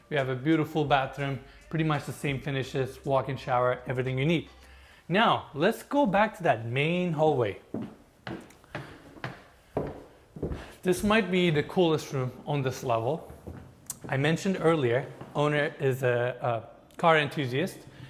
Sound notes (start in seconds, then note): 8.2 footsteps pattering